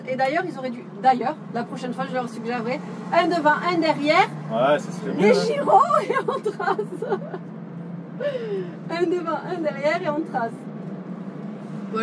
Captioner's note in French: Rires